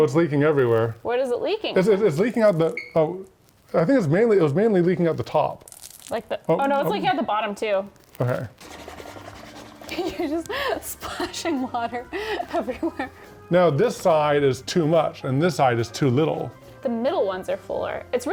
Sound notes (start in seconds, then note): 13.3 laughs